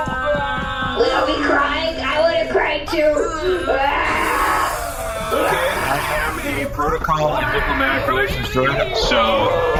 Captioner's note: Bargie begins crying